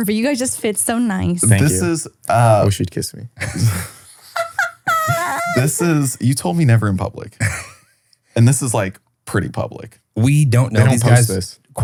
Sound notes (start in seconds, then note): 3.3 laughs